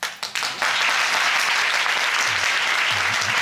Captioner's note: applauding